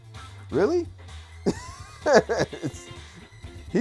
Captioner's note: laughs